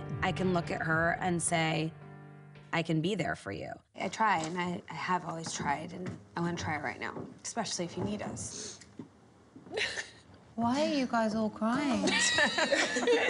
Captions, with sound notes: I can look at her and say, "I can be there for you." I try, and I have always tried, and I want to try right now, especially if you need us. - [sobs] - Why are you guys all crying? [laughter]